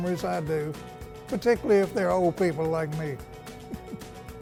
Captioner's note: giggles